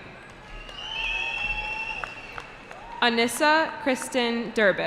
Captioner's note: cheering